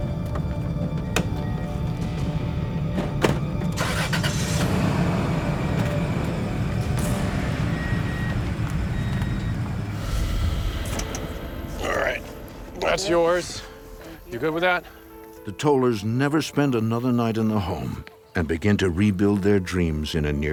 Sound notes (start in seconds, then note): 4.0 engine ruffles